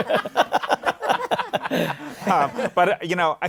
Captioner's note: laughter